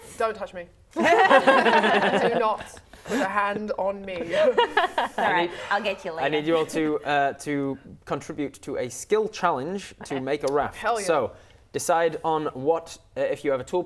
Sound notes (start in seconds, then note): 1.0 laughing